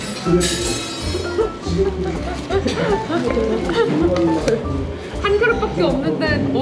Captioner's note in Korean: 일동 웃음